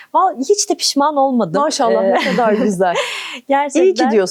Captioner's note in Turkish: kahkaha